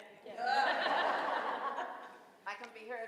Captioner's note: laughing